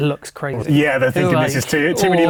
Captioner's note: laughing